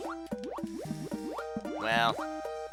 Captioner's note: inhaling